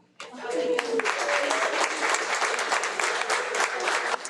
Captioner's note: audience clapping